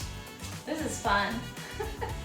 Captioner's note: giggling